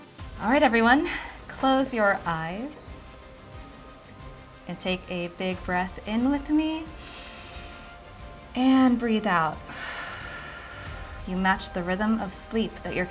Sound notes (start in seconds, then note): 6.8 inhales; 9.3 exhales